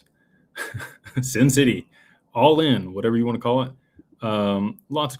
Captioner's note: laughter